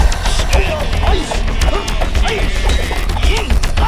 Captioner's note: grunting